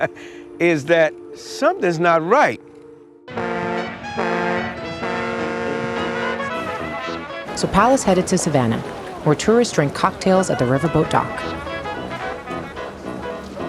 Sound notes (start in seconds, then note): 2.8 horn blaring; 2.8 lively music